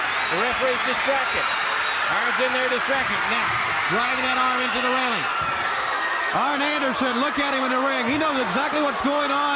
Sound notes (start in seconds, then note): 6.7 crowd cheering